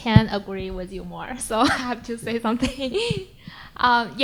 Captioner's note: chuckles